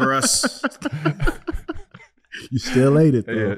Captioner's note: laughing